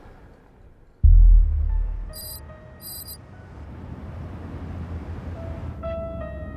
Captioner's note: ominous music; text clicking